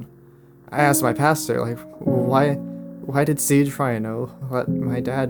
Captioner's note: none